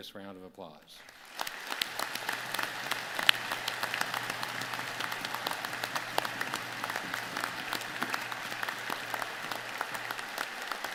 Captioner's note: applause